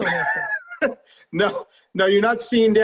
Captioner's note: laughing